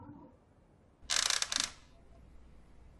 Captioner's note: door creaking